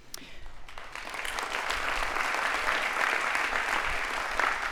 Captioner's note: audience applauding